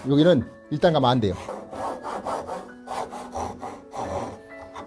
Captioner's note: sawing sound